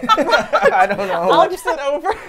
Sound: laugh

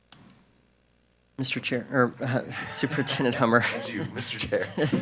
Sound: chuckles

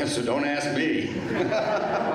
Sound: laughter

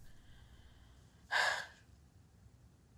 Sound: sighing

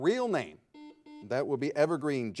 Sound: buzzer beeping

